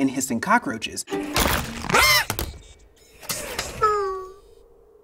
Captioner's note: WALL-E shouts; bug crackles; WALL-E groans